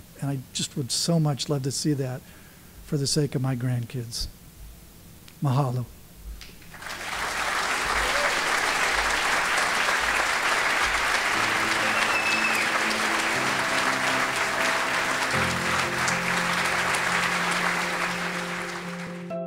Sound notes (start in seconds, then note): 6.9 applause